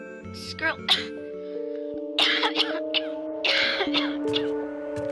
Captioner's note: coughing